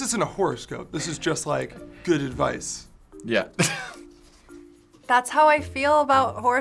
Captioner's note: laughs